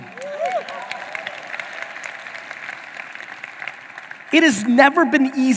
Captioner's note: audience applauding